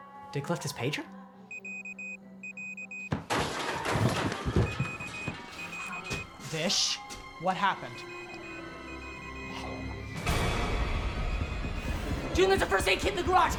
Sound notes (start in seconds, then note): 3.1 door thudding